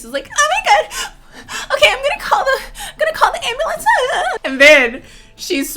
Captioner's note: pants